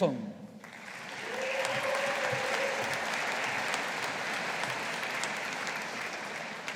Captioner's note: audience applauding